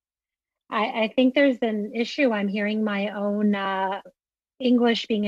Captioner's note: speaking FRENCH